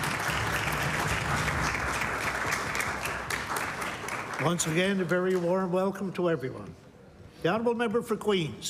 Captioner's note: applause